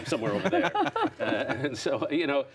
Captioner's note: laughter